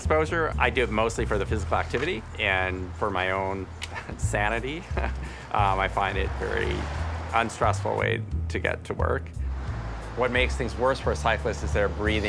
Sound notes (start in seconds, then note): 4.6 chuckling